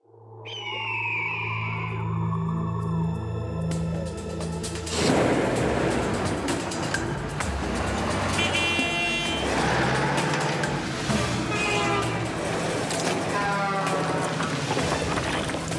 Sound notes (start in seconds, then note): 0.5 eagle screeching; 0.7 dramatic music; 8.0 car horns honking